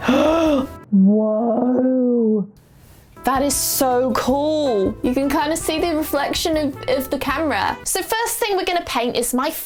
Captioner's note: gasp